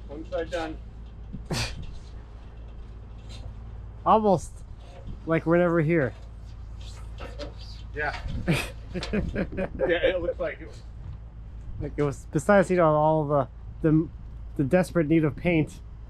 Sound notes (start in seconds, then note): 8.4 laughing